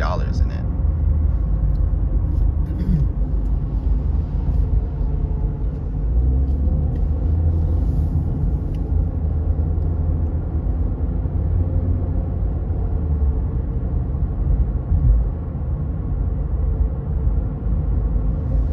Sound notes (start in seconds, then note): 2.7 clears throat